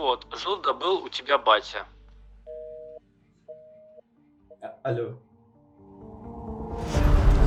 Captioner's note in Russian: гудки